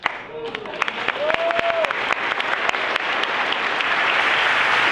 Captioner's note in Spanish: Aplausos